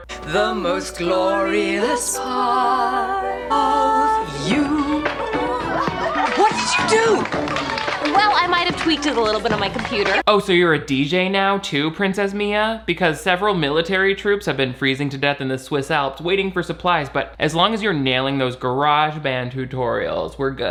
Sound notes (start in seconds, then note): 4.9 upbeat music; 5.0 guests giggle